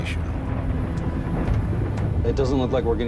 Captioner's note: sinister music; thunderstorm rumbling